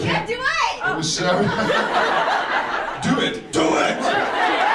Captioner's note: laughs